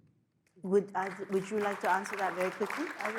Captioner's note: audience applauds